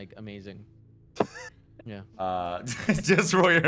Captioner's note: laughter